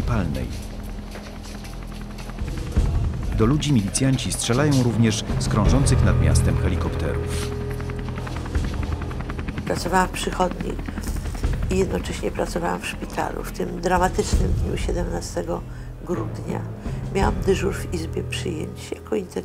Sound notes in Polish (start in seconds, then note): 8.1 odgłos helikoptera